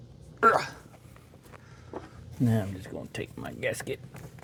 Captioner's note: grunts